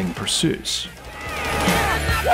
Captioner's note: yelling and shooting